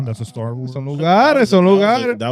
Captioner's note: speaking In Foreign Language